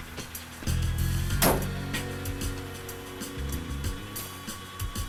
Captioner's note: truck door slams